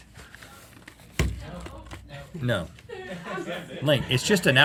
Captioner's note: crew murmuring